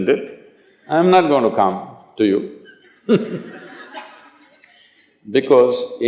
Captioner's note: laughter